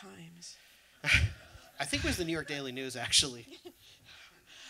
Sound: laughter

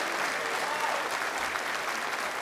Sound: applause

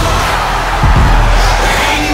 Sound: cheering

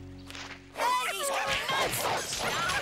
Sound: screaming

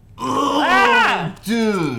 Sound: screams

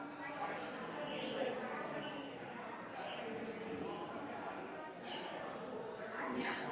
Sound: people chattering distantly continues

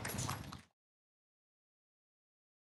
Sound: audience clapping

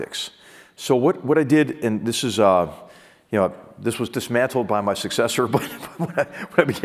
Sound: laugh

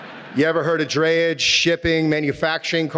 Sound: audience laughing

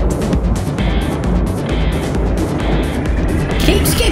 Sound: swelling and rising noise

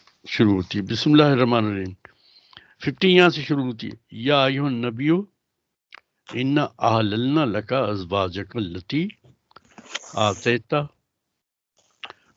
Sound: recites arabic

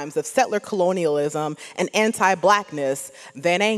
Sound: none

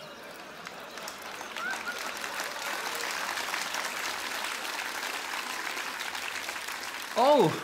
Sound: laughter, applause

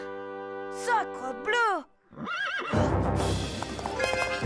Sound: horse whinnies

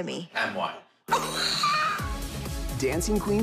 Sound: laughs

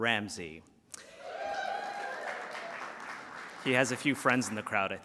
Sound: applause

